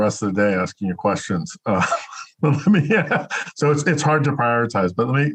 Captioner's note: laughs